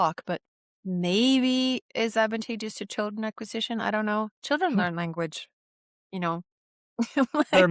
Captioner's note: laughs